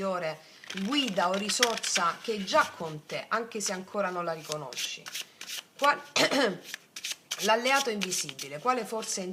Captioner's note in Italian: schiarire la voce